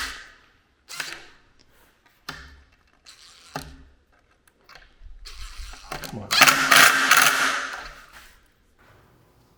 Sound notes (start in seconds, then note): 1.7 power screwdriver driving